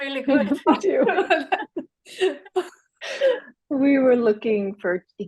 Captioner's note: laugh